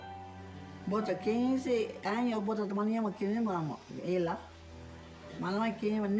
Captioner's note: speaking in foreign language